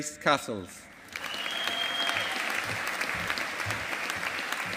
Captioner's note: audience applauding